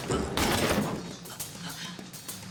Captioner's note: choking